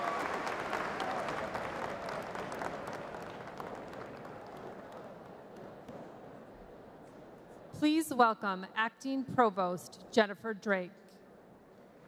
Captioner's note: applause